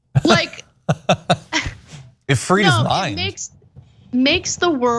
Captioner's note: laugh